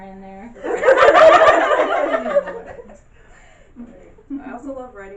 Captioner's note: loud, amused laughing from the audience